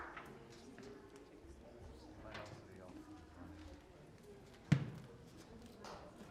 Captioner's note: choir members chattering indistinctly